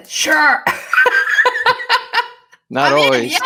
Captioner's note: laughing